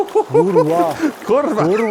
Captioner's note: laughing